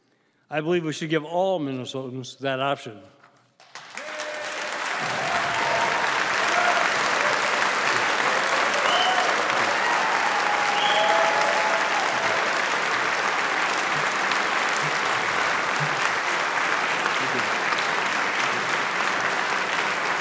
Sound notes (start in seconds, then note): 13.9 applause